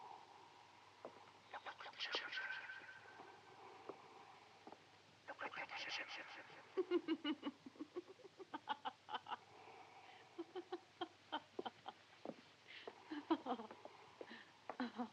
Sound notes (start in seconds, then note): 1.2 man's voice echoing; 6.7 woman laughing